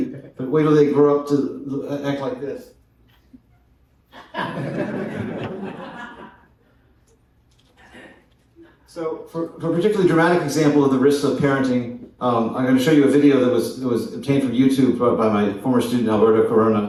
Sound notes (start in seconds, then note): 4.1 laughter